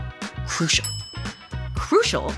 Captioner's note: bell dings